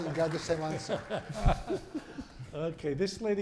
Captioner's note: applause